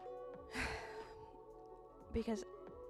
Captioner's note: sigh